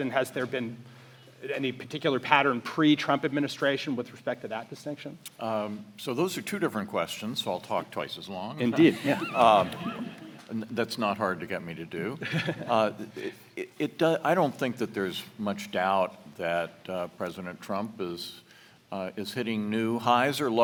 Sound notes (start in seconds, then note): 8.7 audience laughs